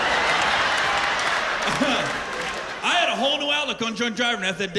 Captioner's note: laughter